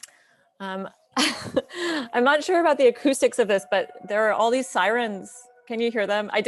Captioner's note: laughs